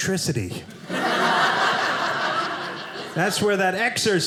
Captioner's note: audience laughing